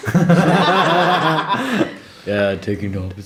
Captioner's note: laughter